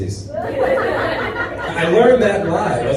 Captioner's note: audience laughs